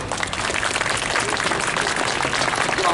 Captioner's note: clapping